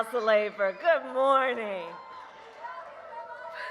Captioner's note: applause